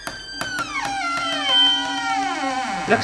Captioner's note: halloween Music; spooky Sounds